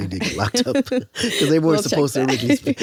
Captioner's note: both laughing